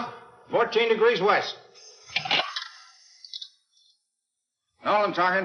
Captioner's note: phone ringing